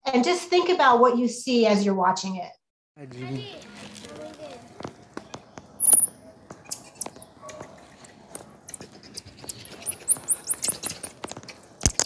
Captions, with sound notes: and just think about what you see as you're watching it. (Man and child speaking in foreign language) (baby monkey chirping and screeching)